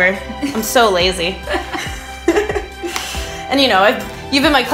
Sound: laughs

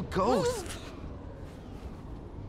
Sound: noise of frustration

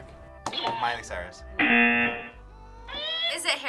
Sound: buzzer sounds

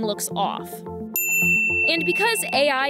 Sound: bell dings

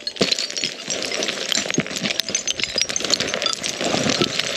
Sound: rocks crashing

